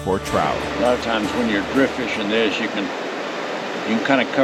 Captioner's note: water flowing